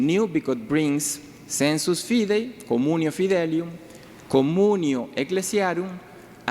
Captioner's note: speaking in foreign language